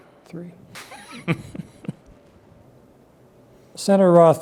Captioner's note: laughs